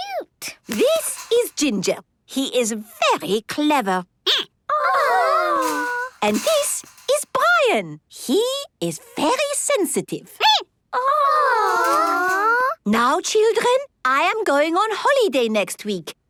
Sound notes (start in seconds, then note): 5.4 squeaking; 9.9 squeaking